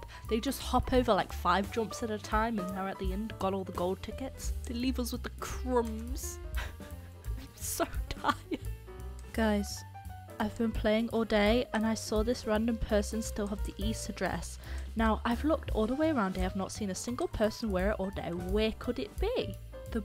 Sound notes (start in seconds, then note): 8.0 laughs